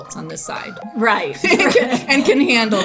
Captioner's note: laughs